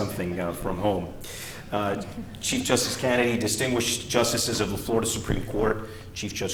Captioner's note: laughter